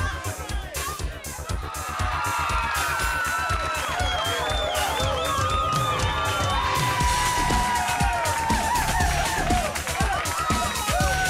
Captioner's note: crowd cheering